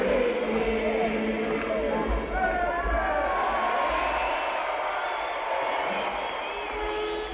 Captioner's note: cheering